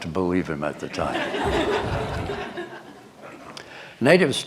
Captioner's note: laughter